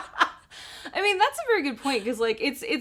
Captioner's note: laughs